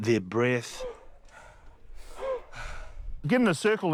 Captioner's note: stunt men panting